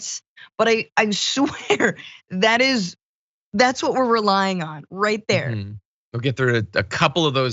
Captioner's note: laugh